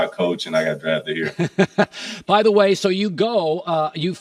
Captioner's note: laughs